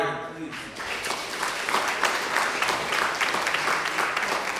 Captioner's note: applause